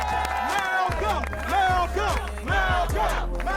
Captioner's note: crowd; people clapping and cheering